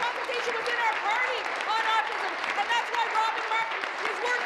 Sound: applause

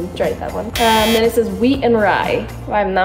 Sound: buzzer buzzing

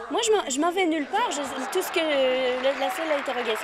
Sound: laughter

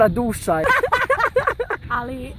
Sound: crazy laugh

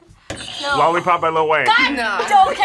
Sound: buzzer rings

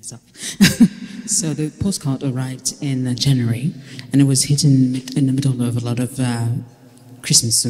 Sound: laughter

